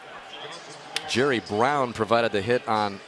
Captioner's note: pa announcement